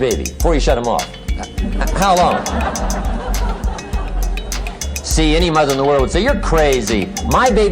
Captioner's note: laughter